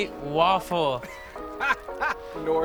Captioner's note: Baratunde laughing